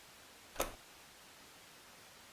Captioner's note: static; click